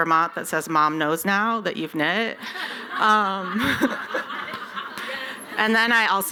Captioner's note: laughter